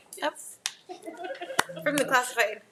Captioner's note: people laughing